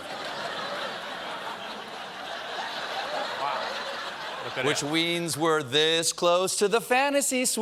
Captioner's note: laughter